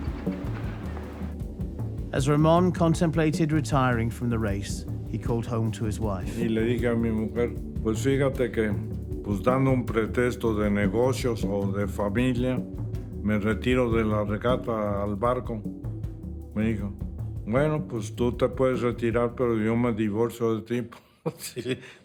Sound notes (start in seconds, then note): 4.4 in Spanish